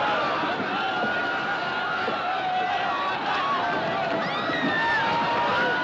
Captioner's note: Grito continua